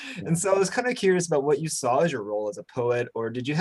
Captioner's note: chuckles